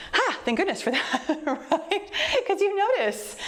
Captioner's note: laughs